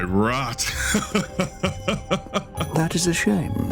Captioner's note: laugh